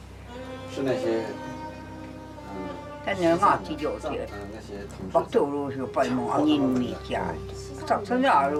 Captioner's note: Chinese spoken audio